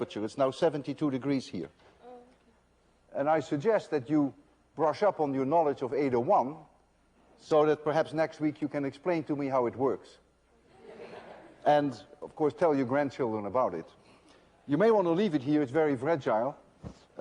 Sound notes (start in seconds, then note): 10.6 laughter